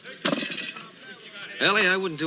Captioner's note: murmuring continues